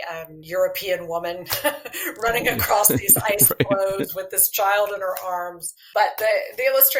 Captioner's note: laughter